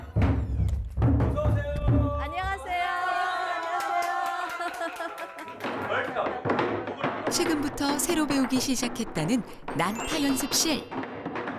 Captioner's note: voiceover